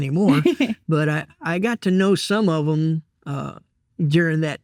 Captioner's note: chuckling